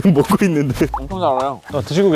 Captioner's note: munch munch